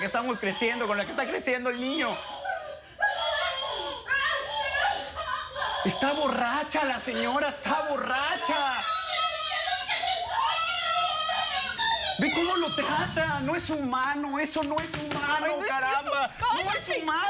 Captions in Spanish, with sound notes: >>VÉALA. ESA ES CON LA QUE ESTÁ CRECIENDO EL NIÑO. [Llanto de ella y del niño] ¡ESTÁ BORRACHA LA SEÑORA! [Gritos] >>MIRE CÓMO LO TRATA. NO ES HUMANO, ¡ESO NO ES HUMANO, CARAMBA!